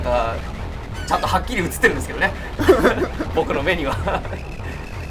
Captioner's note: laugh